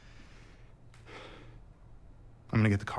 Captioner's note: sighs